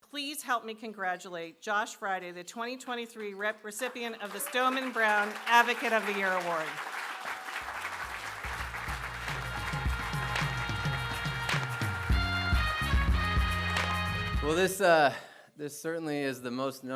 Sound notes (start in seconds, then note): 6.8 applause